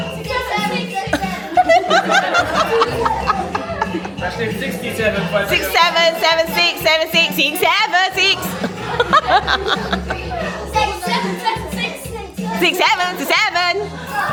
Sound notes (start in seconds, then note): 0.0 speaking German; 3.6 laugh; 9.8 laugh